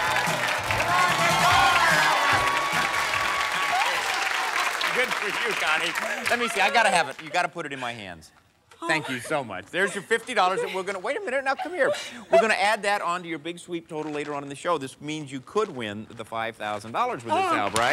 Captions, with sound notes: Come on! There you are! (cheers and applause) Good for you, Connie. Let me see. I gotta have it. You gotta put it in my hands. -Oh. -Thank you so much. There's your $50. We're gonna-- Wait a minute. Now, come here. We're gonna add that on to your Big Sweep total later on in the show. This means you could win the $5,000 with this help. -Oh, great. -All right.